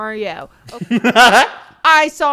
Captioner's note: giggles